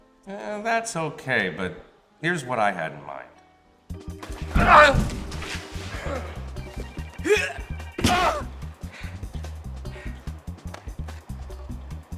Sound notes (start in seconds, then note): 3.9 energetic music; 4.5 Strung Out grunts